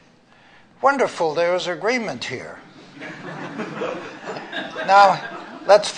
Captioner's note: laughter